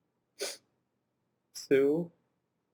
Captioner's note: sniff